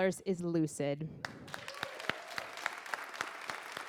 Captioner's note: applause